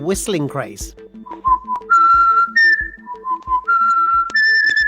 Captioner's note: whistling